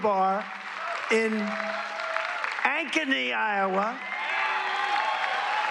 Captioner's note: applause